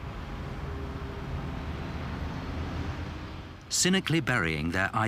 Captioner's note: plane engines roaring